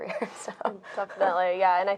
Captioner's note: laughing